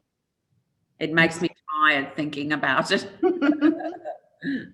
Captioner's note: laughs